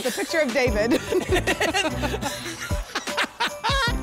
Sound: laugh

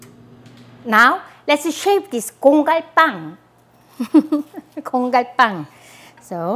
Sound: laughs

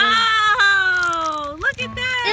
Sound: voiceover

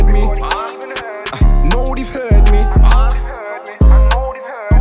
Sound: agh!

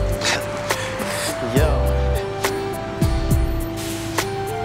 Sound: laughs; R&B music

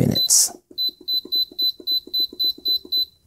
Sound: beeping

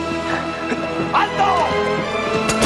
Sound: shouting in spanish

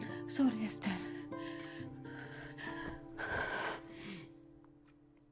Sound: speaking in foreign language

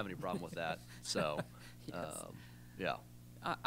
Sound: laughs

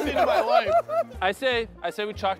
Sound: contestants laughing

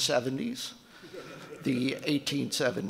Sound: audience laughing

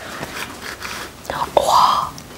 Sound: cutting bell pepper

